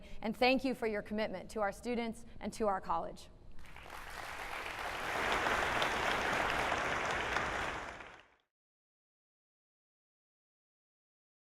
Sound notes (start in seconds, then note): 3.6 applauding